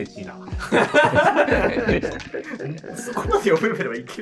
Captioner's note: laughing